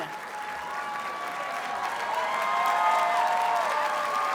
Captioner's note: audience cheers and applauds